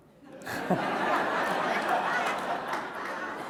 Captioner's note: laughter